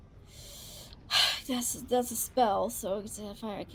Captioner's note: exhales